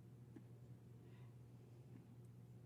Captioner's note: speaking French